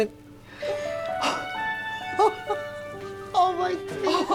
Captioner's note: cheerful music; Evelyn laughing